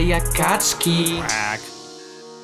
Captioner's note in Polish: quack